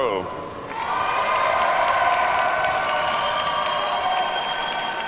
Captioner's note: audience cheers and applauds